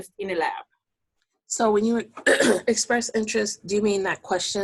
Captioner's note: clearing voice